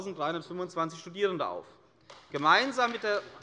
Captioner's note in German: Beifall bei der CDU